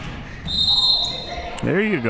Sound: whistle

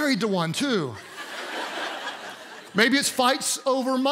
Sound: congregation laughs

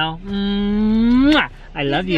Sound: kissing

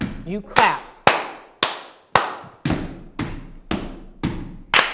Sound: clapping and stomping

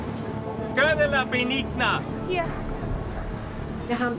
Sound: speaks in foreign language

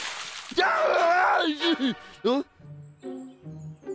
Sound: screaming

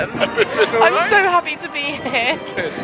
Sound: laughs

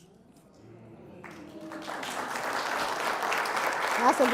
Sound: applause

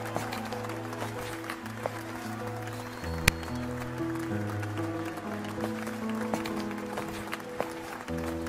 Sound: applause

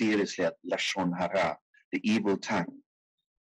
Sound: speaking in foreign language

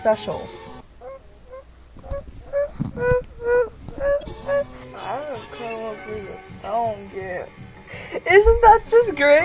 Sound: demonic squeaking

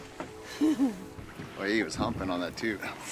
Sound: chuckling

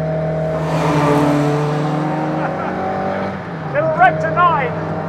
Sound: car engine revving

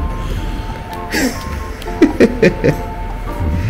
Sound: laughs

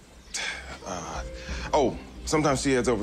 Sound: exhales

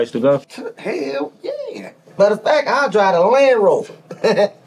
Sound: chuckles

